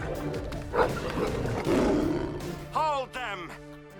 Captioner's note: wolves growl; Zadi growls; Jessa barks